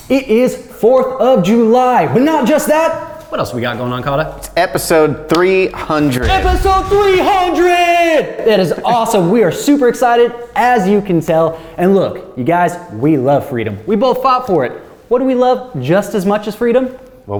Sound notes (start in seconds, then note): 6.2 canon blast